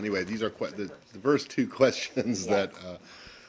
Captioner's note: laughter